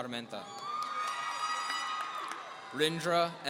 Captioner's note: audience cheering